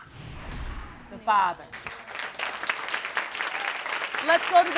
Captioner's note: audience applauding